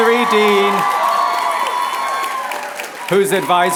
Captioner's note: applause